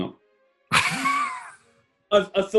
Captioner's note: laughing